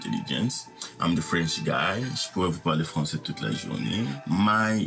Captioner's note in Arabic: يتحدث الفرنسية